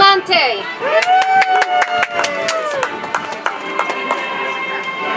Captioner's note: audience applauds